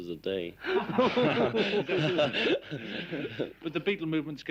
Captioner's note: laughing